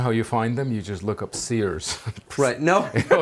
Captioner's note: laughter